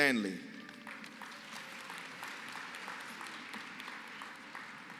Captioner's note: applause